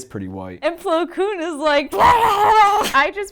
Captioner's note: blubbers